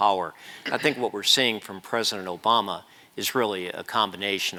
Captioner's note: cough